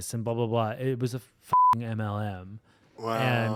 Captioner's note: beep